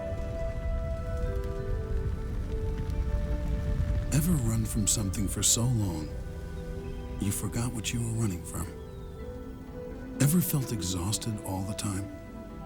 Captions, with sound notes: (fire crackling) - Ever run from something for so long, you forgot what you were running from? Ever felt exhausted all the time?